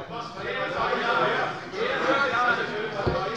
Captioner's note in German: Zurufe von der CDU